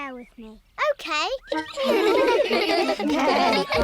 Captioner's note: giggling